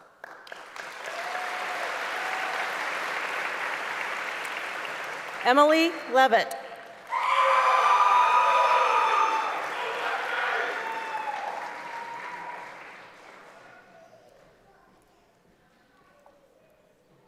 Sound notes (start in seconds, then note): 0.0 applause; 10.9 screaming